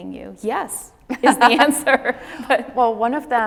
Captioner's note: laughs